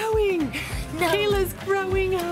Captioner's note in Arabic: يضحك